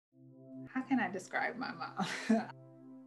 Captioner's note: laughs; brooding music